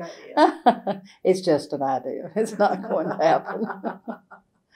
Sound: laughter

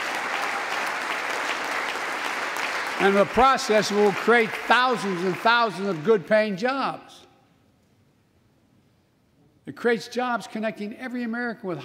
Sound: applause

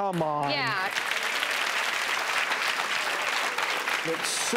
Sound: audience applauds

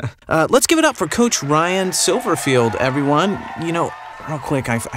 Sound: audience cheering; laughs

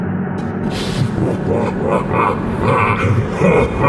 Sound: SCP laughs evilly; the laugh is getting louder and louder

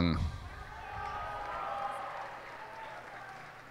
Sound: cheers and applause

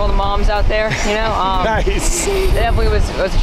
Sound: laughing

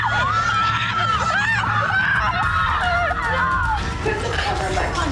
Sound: screaming

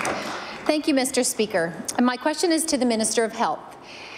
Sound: applause

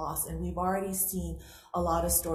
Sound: none

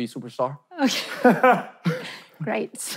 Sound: laughing

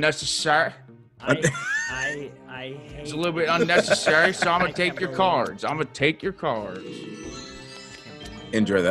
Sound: laugh

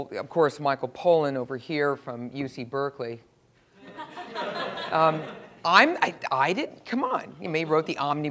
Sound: laugh

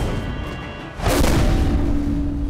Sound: thudding

